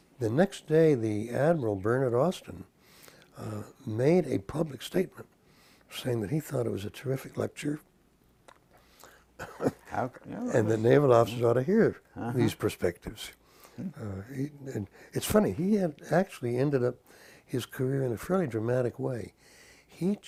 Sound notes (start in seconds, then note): 9.4 cough